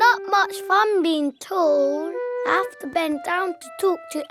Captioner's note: none